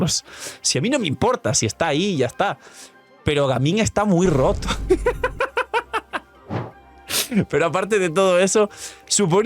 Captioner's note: laughs